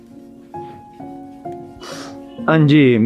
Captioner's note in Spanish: resoplido